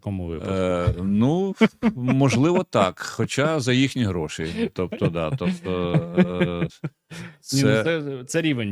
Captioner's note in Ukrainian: сміх